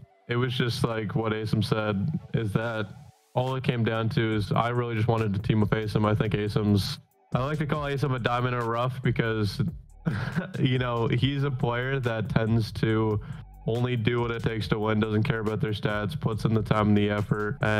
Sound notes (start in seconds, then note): 10.0 laughs